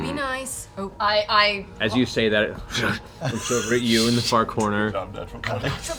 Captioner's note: snarls; whispers